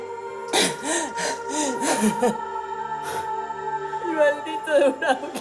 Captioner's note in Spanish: Sollozos